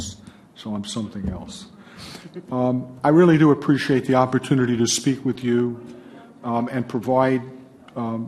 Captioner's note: laughs